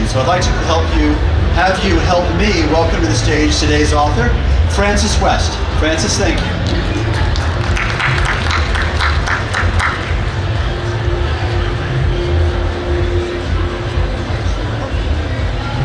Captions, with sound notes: so I'd like to have you help me welcome to the stage today's author, Frances West. Frances, thank you. (audience applauding)